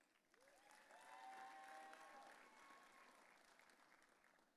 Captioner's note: audience cheering